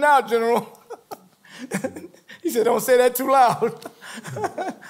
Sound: laughs

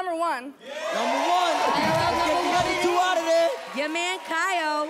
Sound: audience cheers

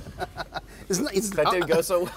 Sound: laughter

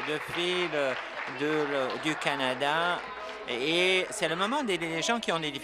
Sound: applause

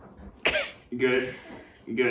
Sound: coughs

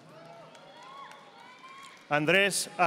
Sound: audience applauding

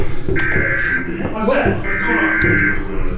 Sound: alarm blaring

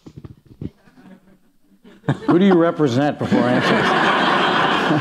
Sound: laughter

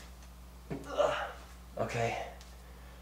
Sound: groans

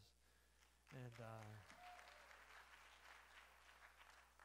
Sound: applause

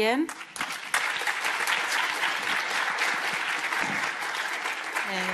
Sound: audience applauding

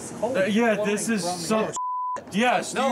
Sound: beeps

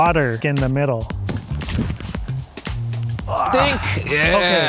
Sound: body whirring

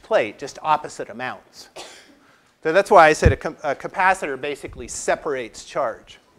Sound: cough

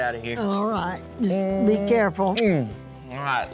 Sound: smooch

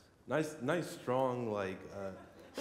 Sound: laughter

